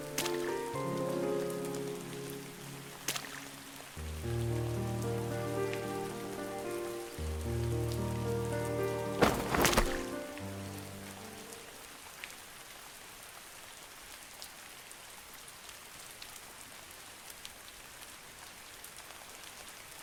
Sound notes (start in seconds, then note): 9.2 thud